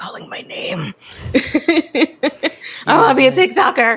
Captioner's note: both laugh